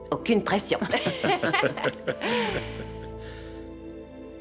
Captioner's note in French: rire